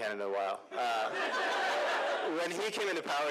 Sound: laughter

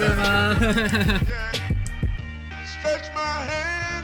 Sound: laughs

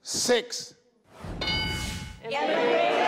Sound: ding sound

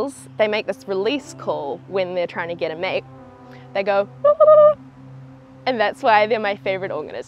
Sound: mating call

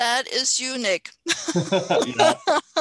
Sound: laughter

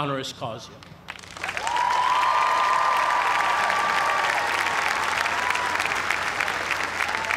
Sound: cheers and applause

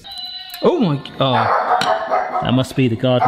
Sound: dog barking

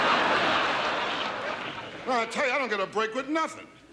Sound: audience laughs

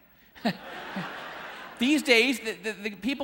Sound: audience laughing

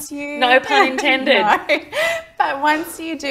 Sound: laughs

